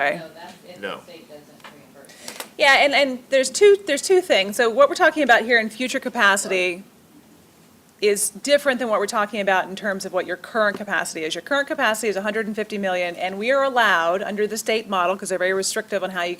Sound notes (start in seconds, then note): none